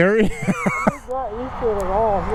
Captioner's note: laughing